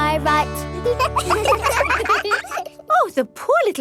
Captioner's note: children laugh